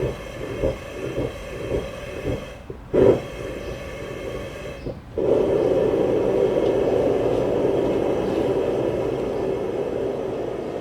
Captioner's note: machinery sounds